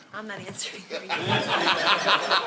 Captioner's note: laughter